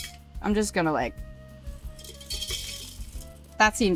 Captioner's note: ice rattles; ice rattles